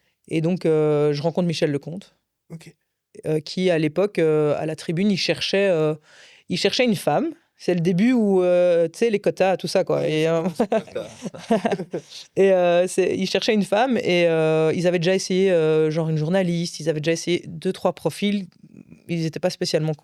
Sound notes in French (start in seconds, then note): 10.4 rires